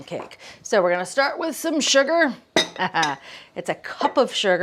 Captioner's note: chuckles